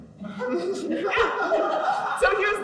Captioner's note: audience laughs